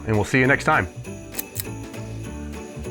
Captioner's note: click